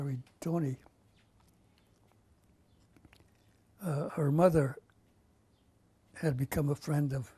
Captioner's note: pauses for 3 seconds